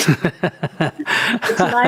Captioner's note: laughter